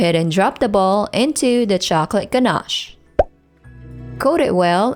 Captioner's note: bottle pops